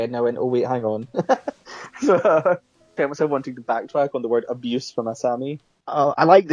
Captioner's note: laughs